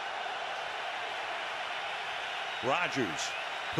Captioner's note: crowd cheering